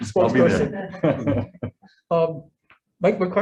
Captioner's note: laughs softly